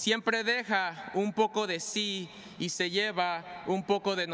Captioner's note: speaking spanish